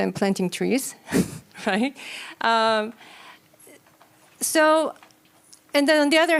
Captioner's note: chuckles